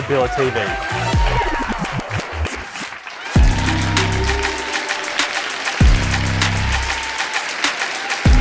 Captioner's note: applause